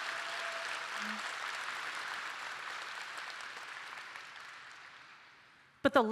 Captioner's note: applause